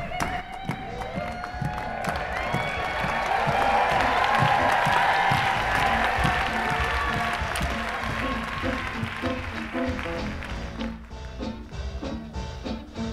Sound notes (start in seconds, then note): 2.4 applause; 6.7 jazz music